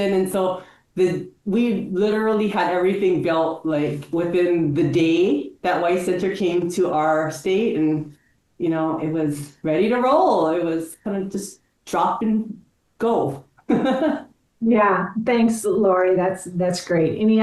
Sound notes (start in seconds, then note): 13.7 chuckles